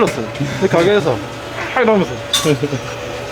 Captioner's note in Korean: 환호